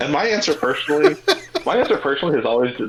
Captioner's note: laughing